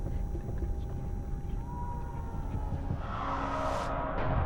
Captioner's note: faint screaming